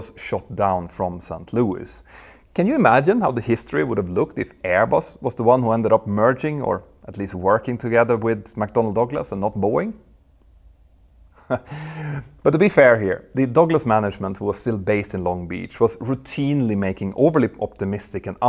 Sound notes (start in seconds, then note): 11.3 chuckles